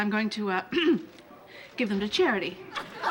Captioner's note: clears throat